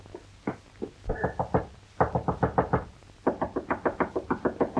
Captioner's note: knocking at door